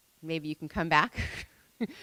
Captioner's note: laughing